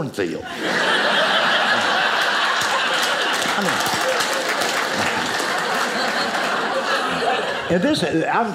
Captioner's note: audience laughing